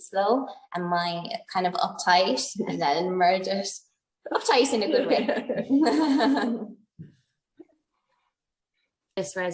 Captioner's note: laughs